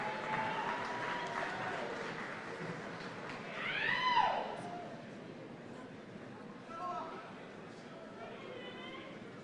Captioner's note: cheers and applause